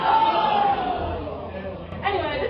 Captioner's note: everyone goes "ohhh" at that sick burn